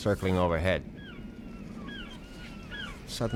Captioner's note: sea gulls squawking